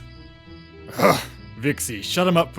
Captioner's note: Ares grunts in annoyance